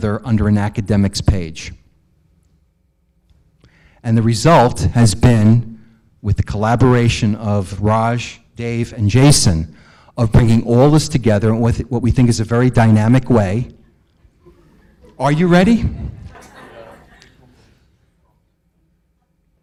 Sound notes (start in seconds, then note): 14.3 audience murmurs; 14.4 audience giggles